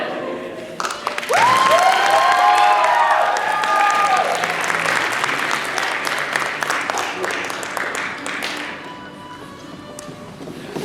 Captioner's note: applause